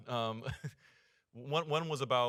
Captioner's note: chuckling